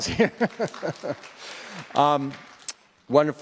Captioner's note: applause